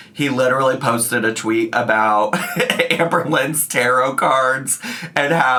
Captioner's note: chuckles